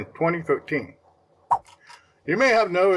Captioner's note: swipe Sound